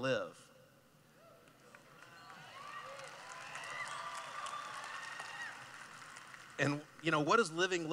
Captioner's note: cheering